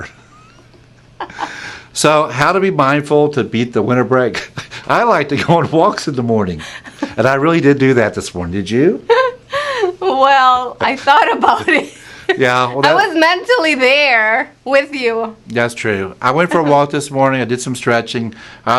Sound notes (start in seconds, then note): 1.1 laughs; 9.5 laughs